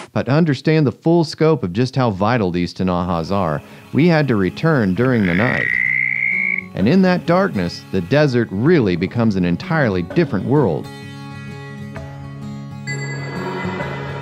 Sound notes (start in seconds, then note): 5.0 frog chirps